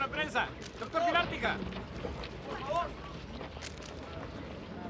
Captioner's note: cameras clicking